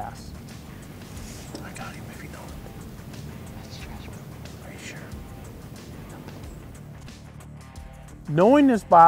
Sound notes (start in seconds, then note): 0.8 whispering; 4.3 whispering